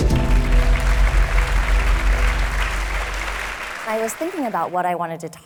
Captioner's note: audience applauding